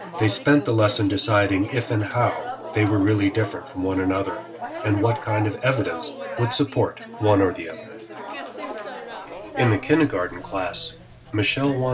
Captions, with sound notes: They spent the lesson deciding if and how they were really different from one another, and what kind of evidence would support one or the other. [CHATTER] In a kindergarten class, Michelle